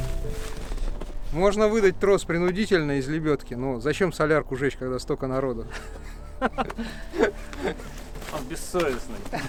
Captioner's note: laughs